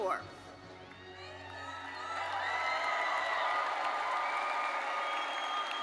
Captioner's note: audience cheering and applauding